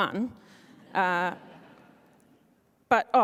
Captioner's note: laughing